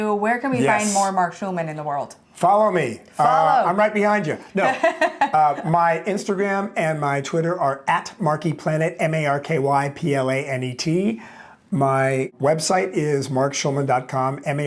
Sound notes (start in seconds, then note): 4.5 chuckles